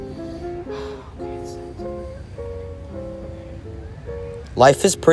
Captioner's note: sighs